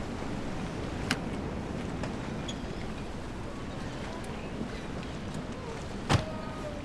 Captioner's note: car door opening and closing